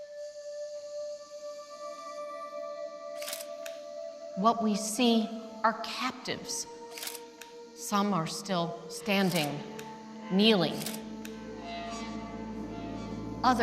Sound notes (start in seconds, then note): 3.2 camera clicks